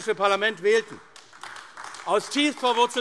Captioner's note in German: Beifall AfD